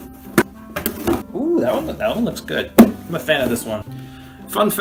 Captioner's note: hits jar